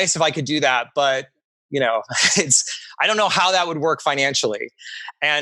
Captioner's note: laughs